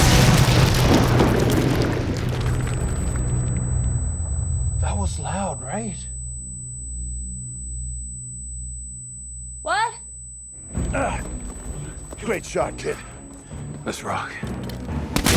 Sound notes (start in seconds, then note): 0.0 explosion blasts; 3.2 feedback whistles